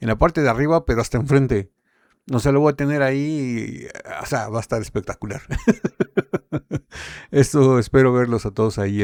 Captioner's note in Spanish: risas